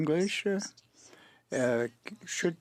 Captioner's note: speaking French